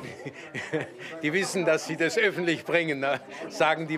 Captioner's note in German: lacht